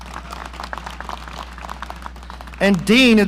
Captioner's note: audience applauding